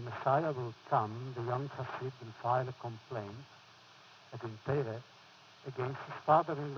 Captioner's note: foreign language